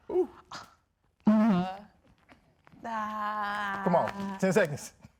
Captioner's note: exclaiming in indecision